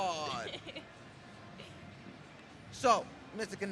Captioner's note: laughs